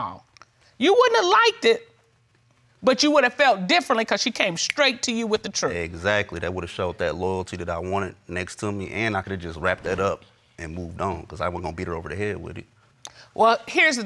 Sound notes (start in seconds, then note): none